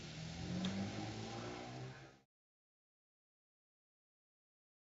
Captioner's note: engine softly revving